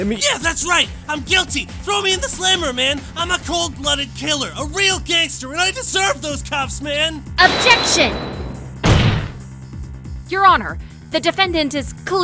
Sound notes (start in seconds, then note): 7.4 slam